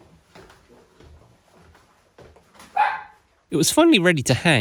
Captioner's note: bark!